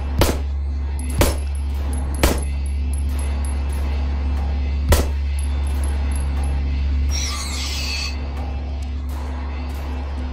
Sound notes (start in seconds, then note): none